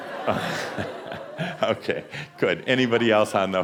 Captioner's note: laughter